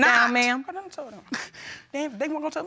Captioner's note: sobs